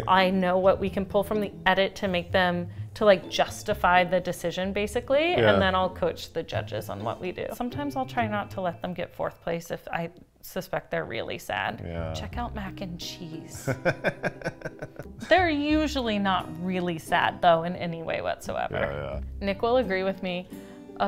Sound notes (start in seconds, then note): 13.5 laughing